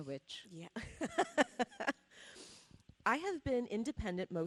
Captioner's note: laughing